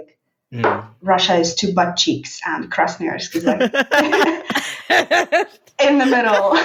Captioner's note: laughing